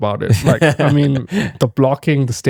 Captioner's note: laughing